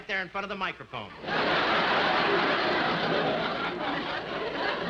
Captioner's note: audience laughing